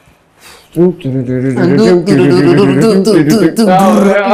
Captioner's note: humming